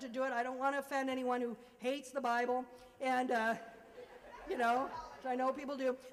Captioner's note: laughter